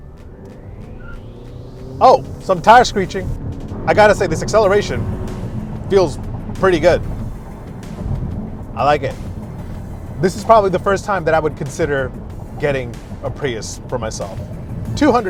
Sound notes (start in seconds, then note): 1.0 tires screeching